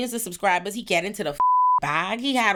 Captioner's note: beep